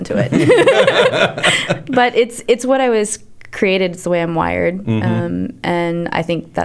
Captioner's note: laughter